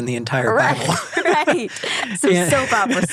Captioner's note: laughing